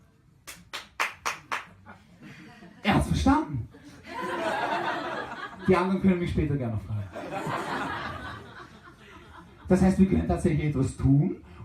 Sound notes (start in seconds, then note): 0.0 silence; 0.4 one lonely: clap clap clap - clap clap; 3.8 laughter; 7.0 laughter